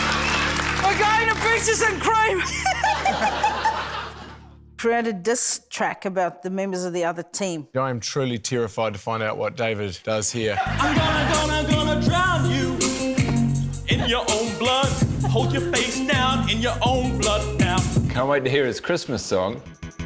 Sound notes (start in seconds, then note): 2.4 laughter